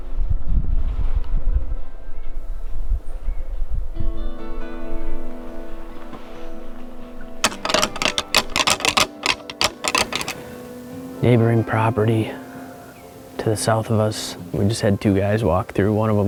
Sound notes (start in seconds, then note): 0.3 calm music; 7.4 antlers rattling